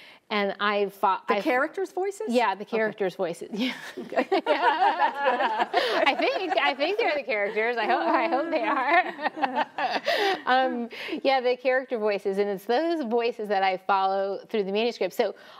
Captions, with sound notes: - The character's voices? - Yeah, the character's voices. (laughs) I think, I think they're the character's, I hope they are. (laughs) Yeah, the character voices. And it's those voices that I follow throughout the manuscript, so,